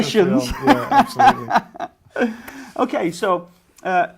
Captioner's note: laughs